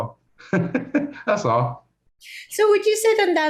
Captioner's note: chuckles